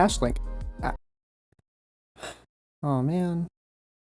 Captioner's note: sighs